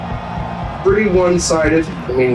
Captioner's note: crowd Noises